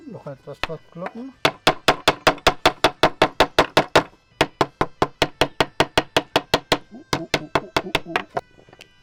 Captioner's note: knocking sound